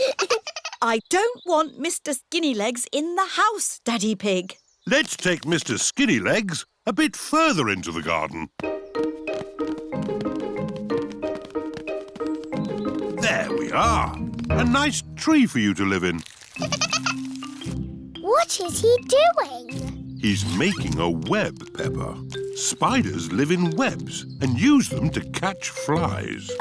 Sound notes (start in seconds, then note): 0.0 all giggling; 16.6 giggling